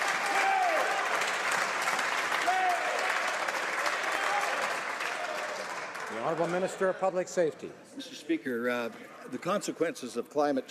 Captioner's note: some Applause